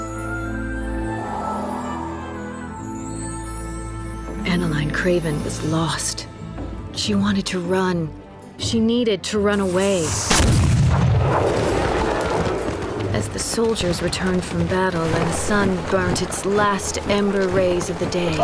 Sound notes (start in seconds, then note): 9.7 cannon blast